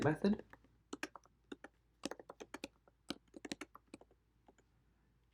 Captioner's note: keyboard clicking